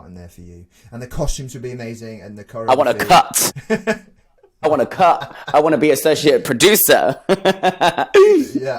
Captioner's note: laughs